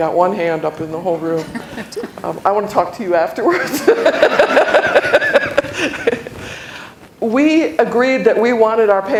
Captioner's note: laughter